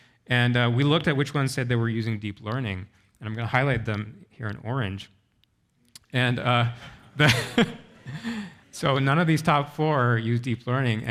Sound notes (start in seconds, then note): 7.2 chuckles